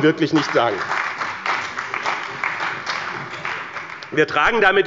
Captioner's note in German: Beifall bei dem BÜNDNIS 90/DIE GRÜNEN und der CDU